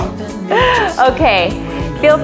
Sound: chuckles

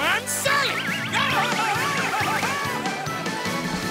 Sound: screaming

